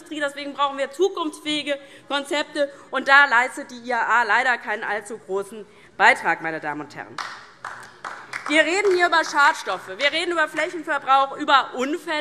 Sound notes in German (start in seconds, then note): 7.1 Beifall DIE LINKE